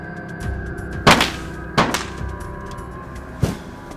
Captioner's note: guns fire